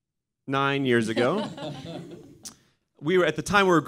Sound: all laughs

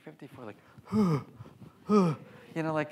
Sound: grunting

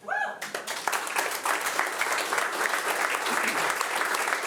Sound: audience applauding

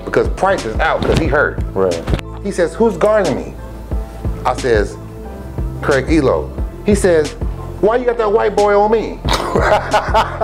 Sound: laughter

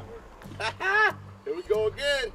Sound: laughter

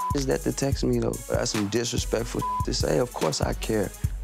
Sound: beep; beep

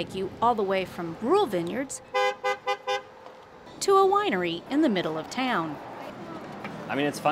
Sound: horn honking

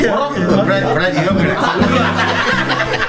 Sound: playful chatter; laughs

